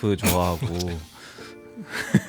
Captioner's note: laughs